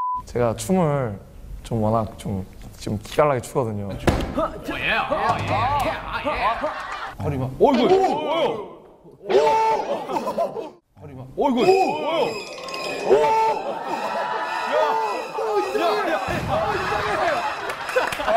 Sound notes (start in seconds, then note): 7.5 hosts shout; 9.2 shouts in fear; 12.3 horror sting